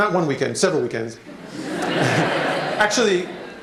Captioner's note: laughter